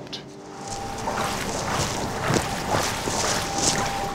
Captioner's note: machine whirring, splashing